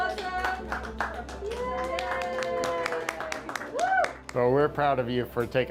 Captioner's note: all applauding; all cheer